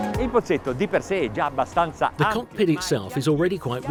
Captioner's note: speaking in foreign language